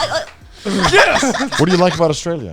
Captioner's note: everyone laughing